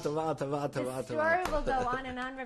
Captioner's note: speaking yiddish; laughs